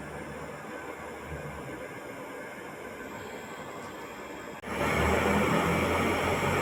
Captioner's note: sound of stove drawing air